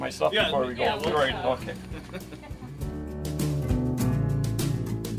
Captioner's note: laughing